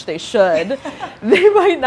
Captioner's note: laughing